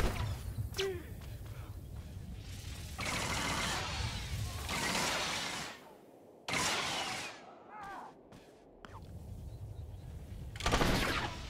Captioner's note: gunshots